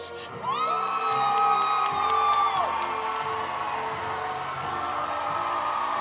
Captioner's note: audience applauding; audience cheering